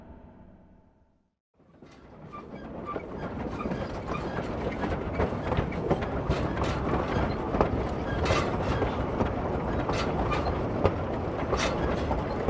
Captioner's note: train moves along the tracks